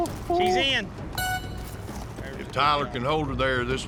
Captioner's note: blows horn